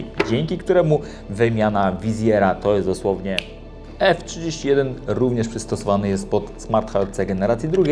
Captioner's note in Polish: pstryk